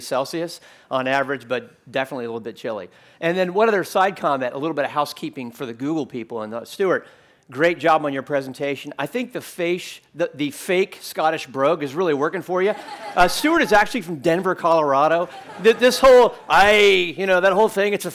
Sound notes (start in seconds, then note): 12.6 laughter